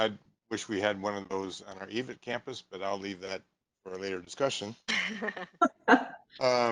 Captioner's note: laughing